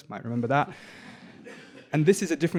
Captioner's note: audience laughing